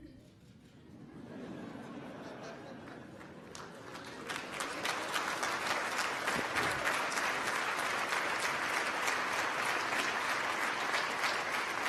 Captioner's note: laughter and applause